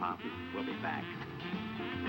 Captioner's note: laughs